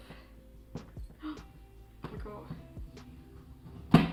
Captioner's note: gasp